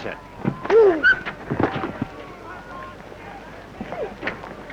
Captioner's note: screaming